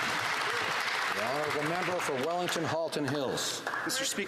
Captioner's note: some Applause